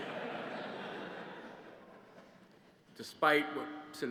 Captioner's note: laughter